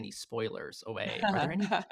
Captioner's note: laughs